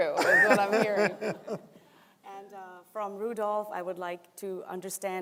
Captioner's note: laughter